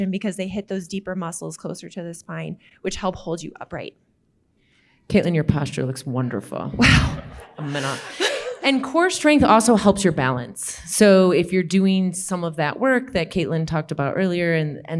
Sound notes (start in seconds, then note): 7.2 audience laughing